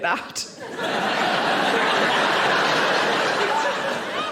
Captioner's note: audience laughing